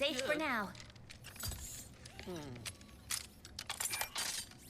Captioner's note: metal whirring and buckling